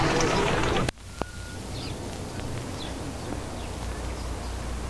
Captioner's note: birds chirping